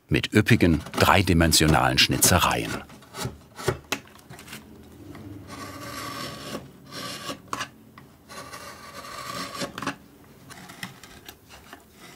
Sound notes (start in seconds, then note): 8.2 carving noises